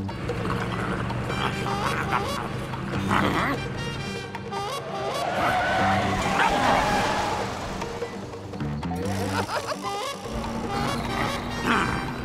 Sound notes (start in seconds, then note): 4.4 tires screeching; 9.1 laughing